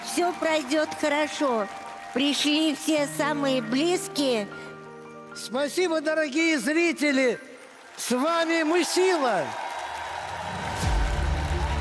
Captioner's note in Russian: ликование